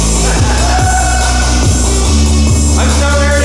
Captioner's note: laughing